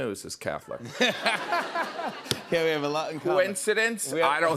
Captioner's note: laughs